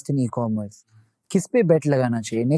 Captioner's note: speaking in Hindi